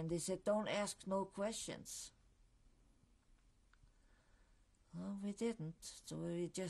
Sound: pauses for 3 seconds

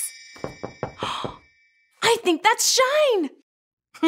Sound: knocking

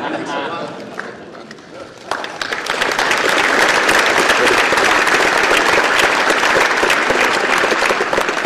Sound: applause

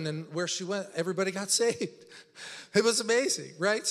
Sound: laughs

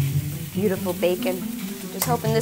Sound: bacon sizzling

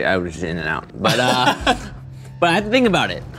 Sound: laughs

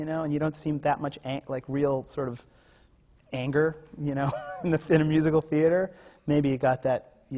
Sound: laughs

